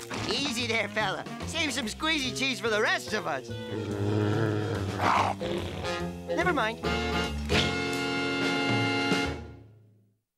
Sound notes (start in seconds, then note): 3.6 growling